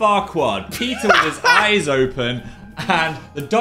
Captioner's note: Dan laughs